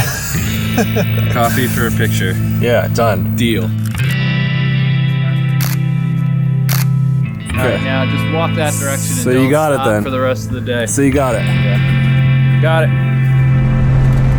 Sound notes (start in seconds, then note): 0.0 laughs; 5.6 camera clicking